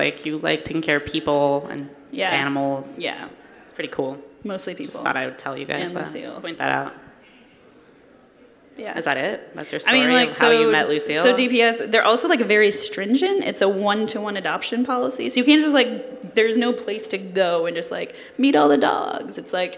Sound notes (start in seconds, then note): none